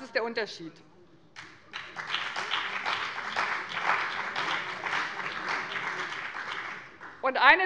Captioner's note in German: Beifall bei dem BÜNDNIS 90/DIE GRÜNEN und der CDU